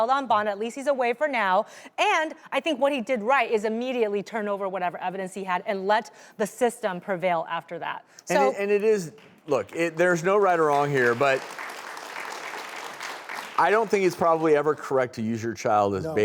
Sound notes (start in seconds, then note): 9.5 audience applaud